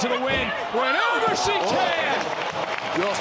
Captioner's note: audience cheering